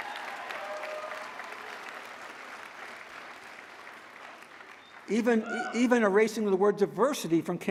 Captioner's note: applause